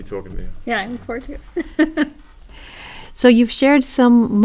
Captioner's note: laugh